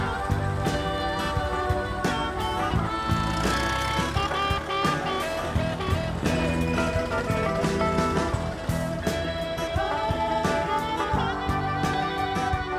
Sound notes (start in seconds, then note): 2.7 car engine roaring; 5.7 upbeat folksy music